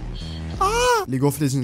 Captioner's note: masculine scream